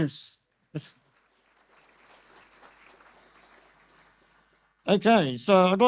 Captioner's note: audience applause